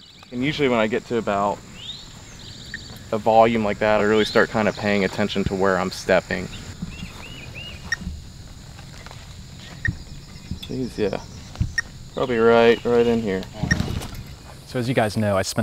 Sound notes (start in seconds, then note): 6.9 beeping